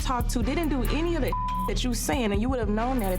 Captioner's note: beep